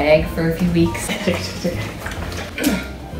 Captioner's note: sloshing; grunts